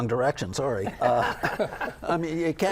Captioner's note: laugh